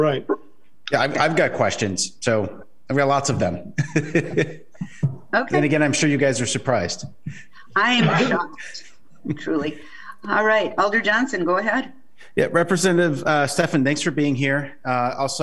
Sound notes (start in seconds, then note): 3.0 laughs